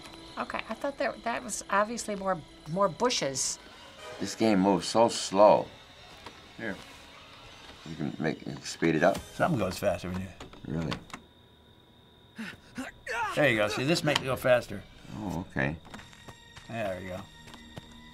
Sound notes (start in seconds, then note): 3.9 frightening music; 12.4 counselor grunting and yelping